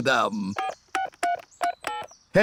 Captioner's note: dialing phone